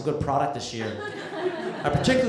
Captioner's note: laughter